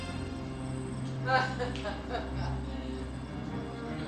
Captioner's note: woman laughs; thrilling music